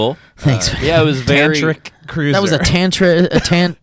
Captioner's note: laughs